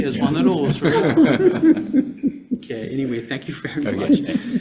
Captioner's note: all laugh